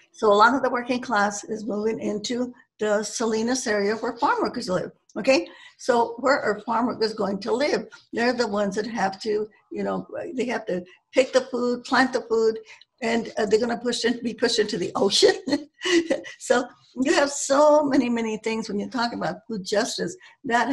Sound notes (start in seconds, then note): 16.0 laughs